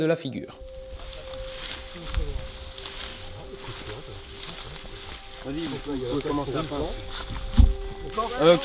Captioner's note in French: discussions et bruit du blé qu'on écrase